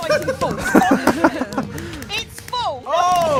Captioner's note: everyone else giggling